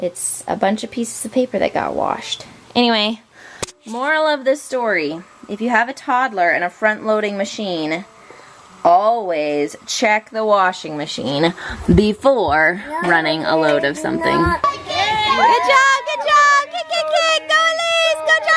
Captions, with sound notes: - It's a bunch of pieces of paper that got washed. Anyway, moral of the story: if you have a toddler and a front-loading machine, always check the washing machine before running a load of something. (children shouting) - Good job, good job. - Kick, kick, kick. Go, Elise.